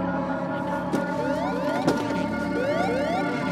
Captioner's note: alarm ringing